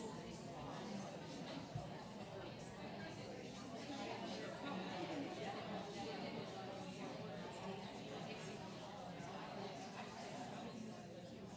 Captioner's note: background chatter